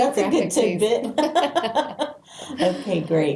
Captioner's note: laughing